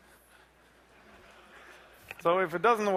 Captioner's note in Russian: смех